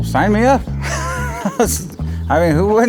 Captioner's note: laughs